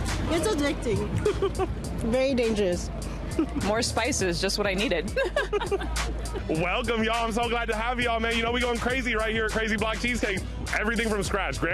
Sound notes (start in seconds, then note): 1.0 laughs; 5.0 both laugh